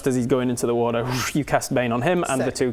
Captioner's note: whoosh